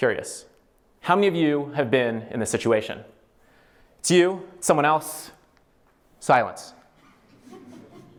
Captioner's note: laughter